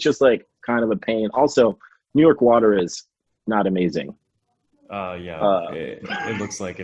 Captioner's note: laughs